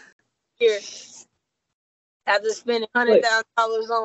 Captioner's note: laughing